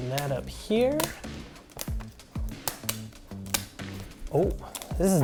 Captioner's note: tape ripping